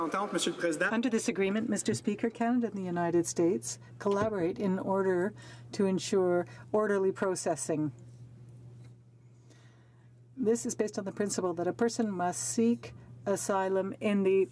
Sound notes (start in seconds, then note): 3.5 speaking French